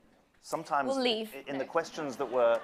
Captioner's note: laughter